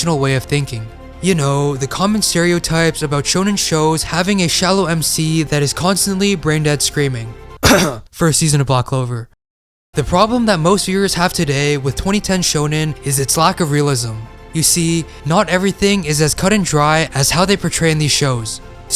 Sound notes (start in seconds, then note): 7.6 cough cough